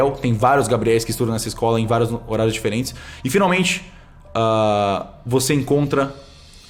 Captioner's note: none